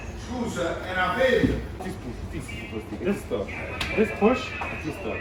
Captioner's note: speaking in foreign language